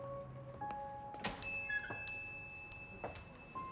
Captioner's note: bell dings